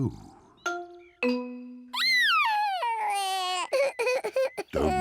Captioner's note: sobbing